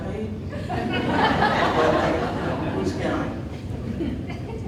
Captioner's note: audience laughing